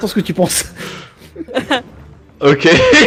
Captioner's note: small laugh